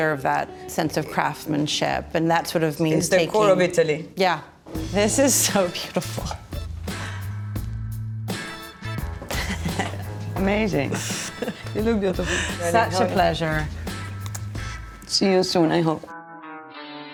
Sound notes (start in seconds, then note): 7.0 upbeat music; 9.3 chuckles